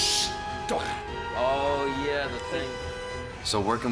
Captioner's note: in English